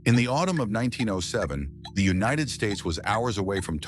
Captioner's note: SFX: ticking clock